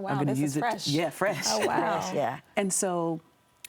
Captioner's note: chuckles